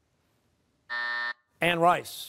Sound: buzzer

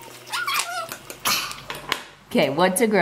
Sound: exhales

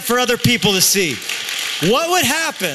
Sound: applause

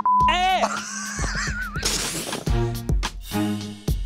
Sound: beeping; laughing

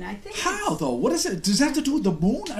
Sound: voiceover

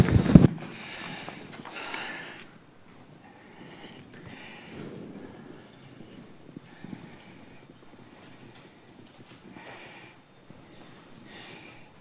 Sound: silence

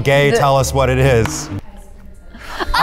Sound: Chloe laughing

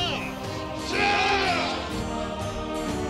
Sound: men yelling

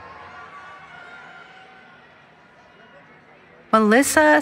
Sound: cheering

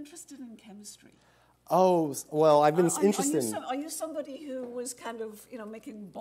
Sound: laughter

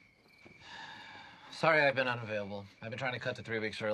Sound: sighs

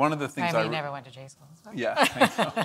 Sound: laughs

